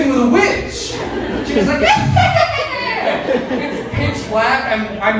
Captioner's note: audience laughing